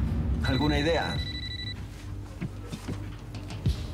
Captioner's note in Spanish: Suena celular